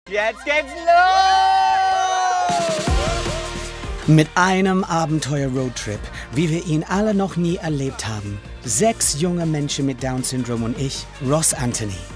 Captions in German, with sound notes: . Jetzt geht's los! (Jubel) Mit einem Abenteuer-Roadtrip, wie wir ihn alle noch nie erlebt haben. Sechs junge Menschen mit Down-Syndrom und ich, Ross Antony,